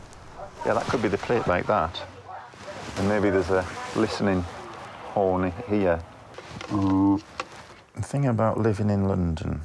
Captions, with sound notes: Yeah that could be the cliff, like that. And maybe there's a listening horn here. (blowing into cup) Thinking about living in London.